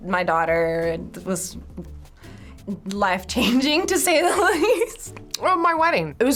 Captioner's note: laughs